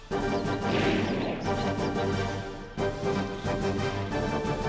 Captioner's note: gunshot bangs